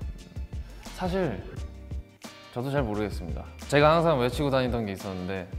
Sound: speaks Korean

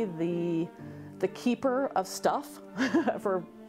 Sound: chuckles

